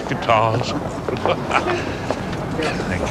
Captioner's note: both chuckle